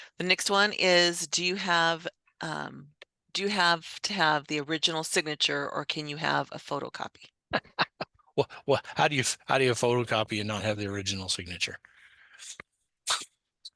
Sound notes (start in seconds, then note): 7.5 laughs